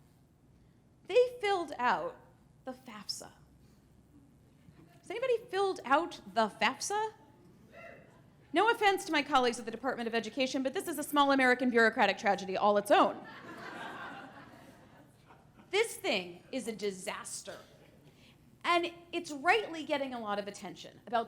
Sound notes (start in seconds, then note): 13.2 laughter